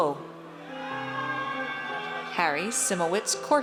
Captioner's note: audience cheers